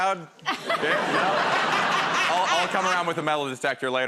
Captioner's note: laughter